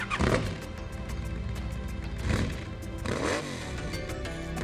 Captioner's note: motorcycle roaring